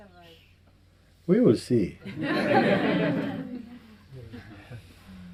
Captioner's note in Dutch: gelach